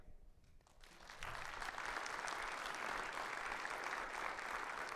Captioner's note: audience clapping